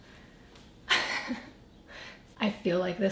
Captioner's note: laughs